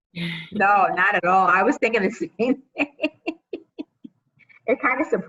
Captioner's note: laughs